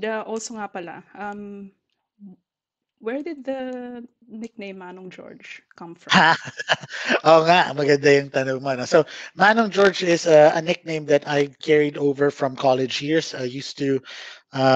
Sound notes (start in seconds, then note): 6.2 laughs